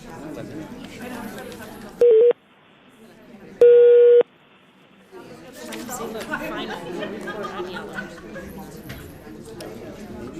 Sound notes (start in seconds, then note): 2.0 beeping; 7.1 audience chattering